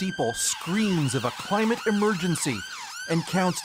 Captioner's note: sirens